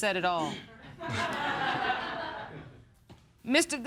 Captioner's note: chuckles